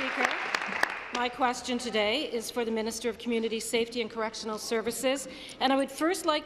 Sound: applause

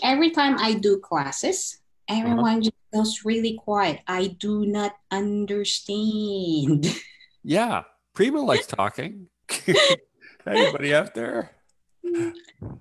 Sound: laughs

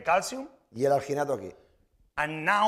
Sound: speaking spanish

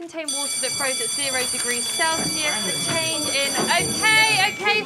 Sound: bell rings

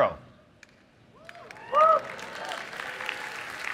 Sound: applause

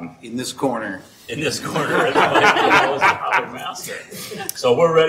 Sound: boisterous laughing

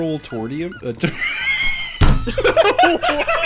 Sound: bursts into laughter

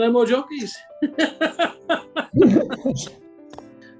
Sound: laughing

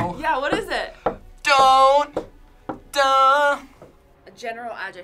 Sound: vocalizes

